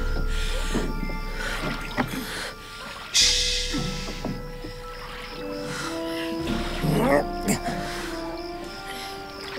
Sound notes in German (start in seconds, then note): 5.4 Er ächzt